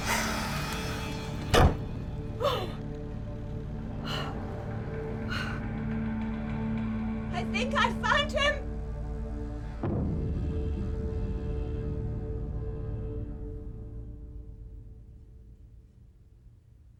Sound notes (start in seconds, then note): 3.9 panting